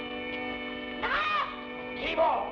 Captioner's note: man groans; boy shouts